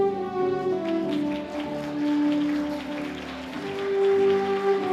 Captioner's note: audience applauding